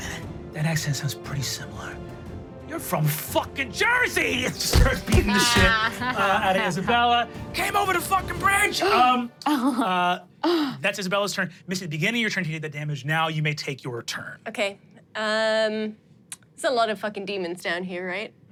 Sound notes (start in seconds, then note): 4.5 thumping; 5.2 everyone laughs